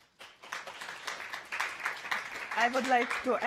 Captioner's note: audience applauding